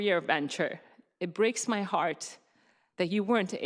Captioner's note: voice breaking